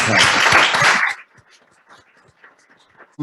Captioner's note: applause